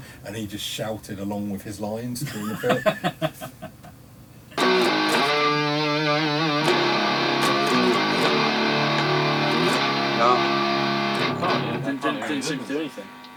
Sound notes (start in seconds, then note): 2.2 laughing; 4.6 guitar riffs